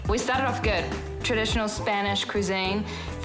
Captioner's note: none